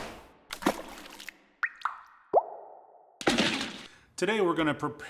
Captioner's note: dripping and splashing